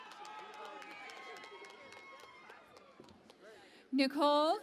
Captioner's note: cheering and Applause